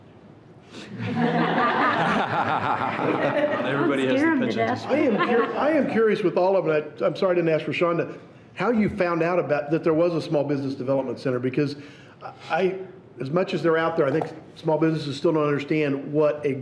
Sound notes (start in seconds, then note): 1.0 everyone laughing